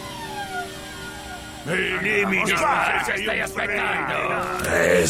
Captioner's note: freaks grumbling